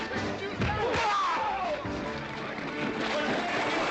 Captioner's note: screaming